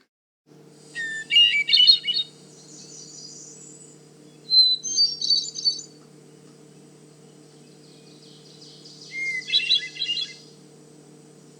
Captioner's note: hermit thrush singing